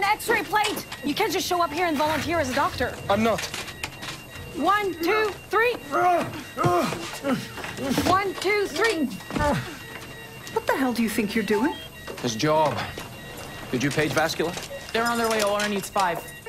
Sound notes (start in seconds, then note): 5.9 grunting